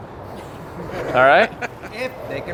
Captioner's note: laughing